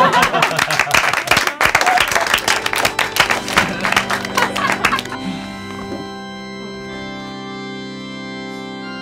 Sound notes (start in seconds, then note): 1.6 clapping; 1.6 organs playing